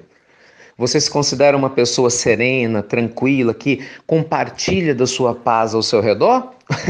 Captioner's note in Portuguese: risos